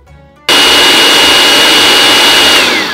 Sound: food processor running

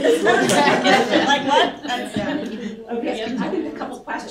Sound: laughter

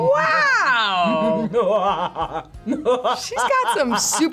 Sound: laughs mysteriously

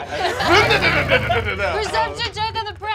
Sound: engine revving

